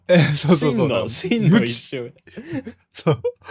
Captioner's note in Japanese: 笑い